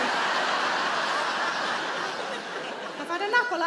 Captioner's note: audience laughing